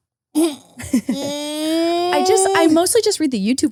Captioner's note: whining